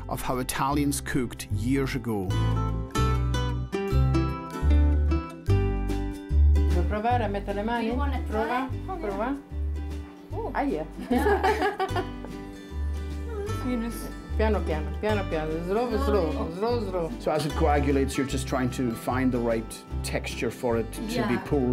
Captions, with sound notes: of how Italians cooked years ago. (playful guitar music) >> (speaking Italian). >> Do you want to try? >> Oh, yeah. Oh! >> (speaks Italian). (speaks Italian). >> So as it coagulates, you're just trying to find the right texture for it to be pulled